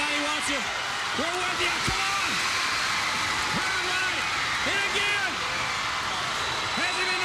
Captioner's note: crowd cheering